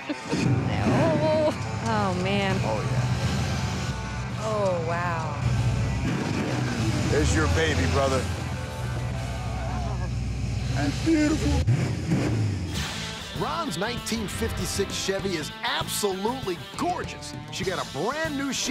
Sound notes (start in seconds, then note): 9.7 sobbing; 10.9 engine revs